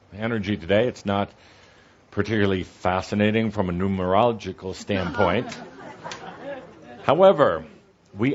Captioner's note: some laughter